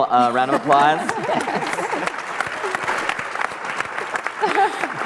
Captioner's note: applause